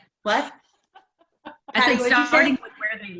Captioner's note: woman laughs